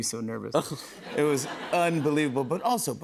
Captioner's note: laughter